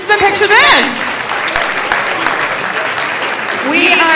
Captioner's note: audience applauding